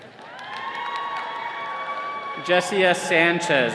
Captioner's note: all cheering